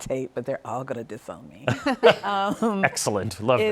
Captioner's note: laughs